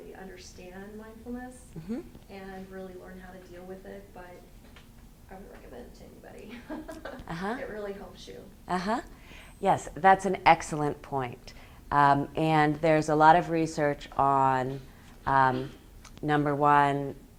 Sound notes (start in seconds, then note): 6.6 laughs